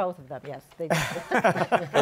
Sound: laughter

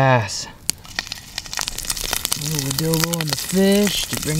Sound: fat crackling

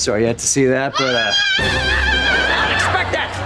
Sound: screaming

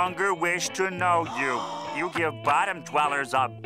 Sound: gasping

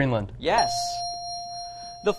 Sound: ding

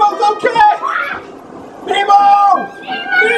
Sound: Good Assistant screams

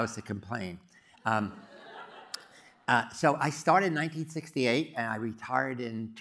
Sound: laugh

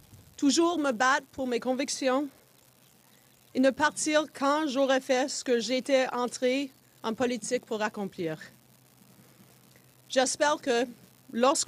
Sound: speaking French

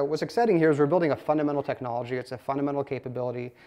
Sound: none

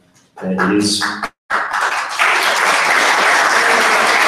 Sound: audience applauds

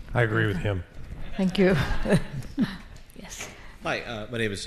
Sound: laughs

